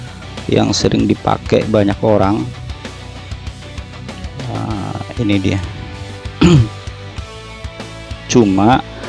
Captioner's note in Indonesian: berdehem